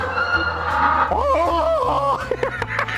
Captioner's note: african penguin braying; attempting the braying sound; laughing